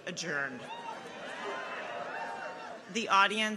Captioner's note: people cheer